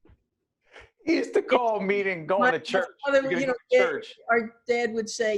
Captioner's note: laughing